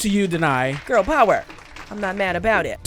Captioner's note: applause